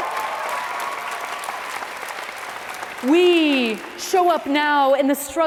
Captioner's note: applause